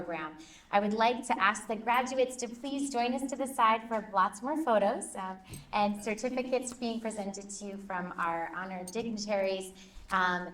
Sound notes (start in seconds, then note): none